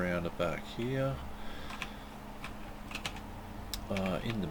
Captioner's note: typing